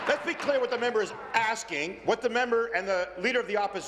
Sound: applause

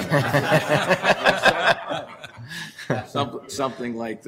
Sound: laughter

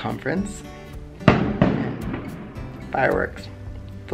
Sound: loud banging noise

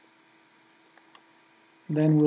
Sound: mouse clicking

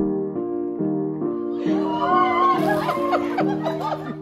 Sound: cheering; laughing

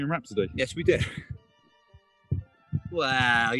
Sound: laughs

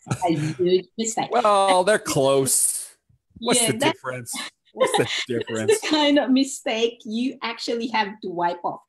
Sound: laughs; laughs

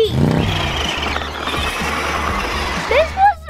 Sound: engine squeals

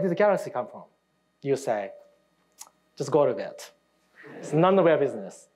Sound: audience laughing

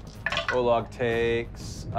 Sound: rolling dice

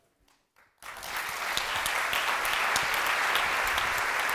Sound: applause

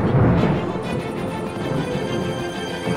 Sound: squeaking

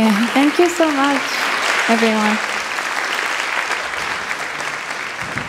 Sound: audience applauds

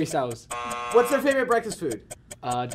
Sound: buzzer

